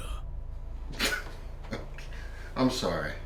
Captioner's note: laughs